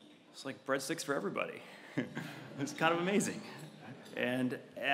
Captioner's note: laugh